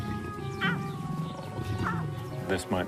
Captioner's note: lion growling